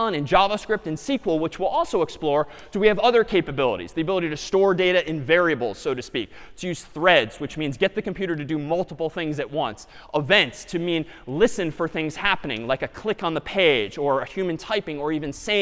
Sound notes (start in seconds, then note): none